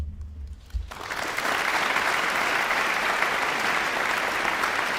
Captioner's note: audience applauding